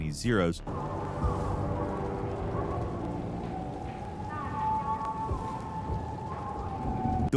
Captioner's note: suspenseful music; fire crackles